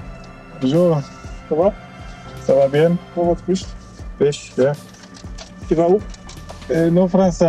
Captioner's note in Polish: rozmowa w j. francuskim; rozmowa w j. angielskim